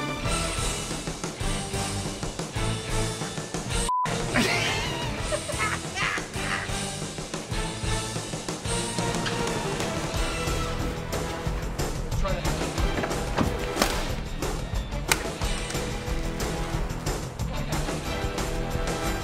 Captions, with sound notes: (BOTH LAUGHING) Let's try that again.